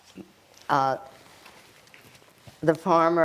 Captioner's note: wiping nose